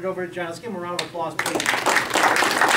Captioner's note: clapping